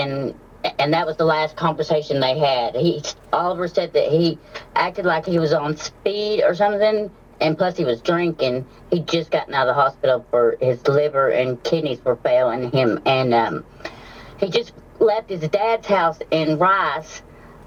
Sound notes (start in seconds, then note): none